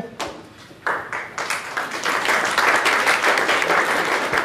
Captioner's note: audience applauding